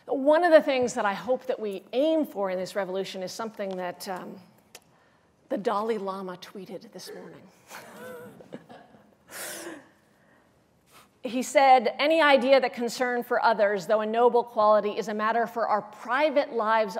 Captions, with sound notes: One of the things that I hope that we aim for in this revolution is something that the Dalai Lama tweeted this morning. [LAUGHS] He said, "Any idea that concern for others, though a quality, is a matter for our private lives